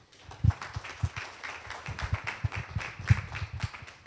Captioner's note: audience applause